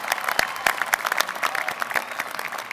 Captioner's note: applause